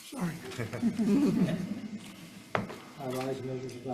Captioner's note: all laugh